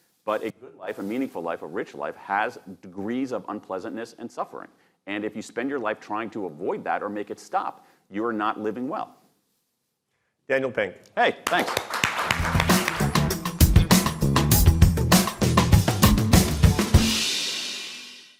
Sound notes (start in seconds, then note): 11.4 audience clapping; 12.2 upbeat music